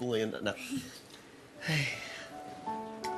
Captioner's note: sighs